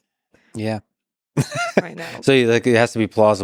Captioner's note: laughs